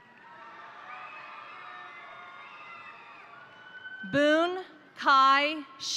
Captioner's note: crowd applauding; crowd cheering